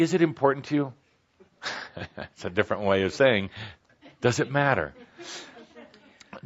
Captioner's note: chuckles